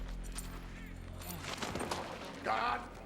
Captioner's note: groans